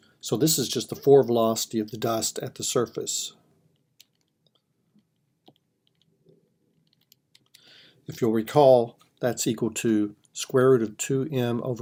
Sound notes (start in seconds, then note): 4.0 typing